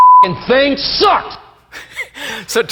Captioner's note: beep; laughing